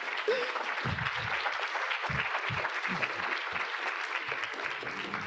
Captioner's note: audience applauding